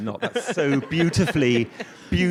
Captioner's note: audience laughs